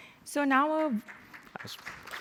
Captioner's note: applause